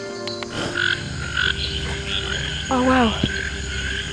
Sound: frogs calling

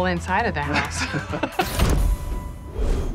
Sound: laughter

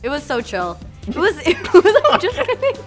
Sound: laughs

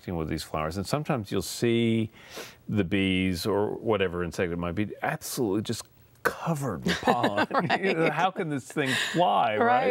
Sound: laughter

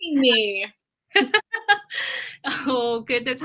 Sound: laughter

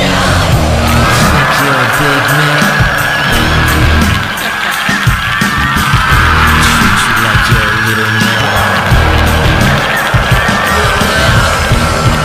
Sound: ha ha ha ha

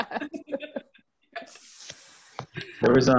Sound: chuckling

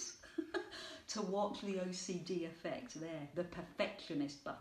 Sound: chuckling

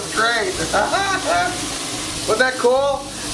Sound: laughing

